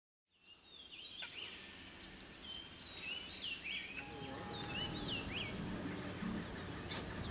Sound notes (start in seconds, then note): 0.4 birds chirping